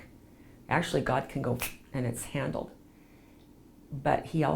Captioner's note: snapping fingers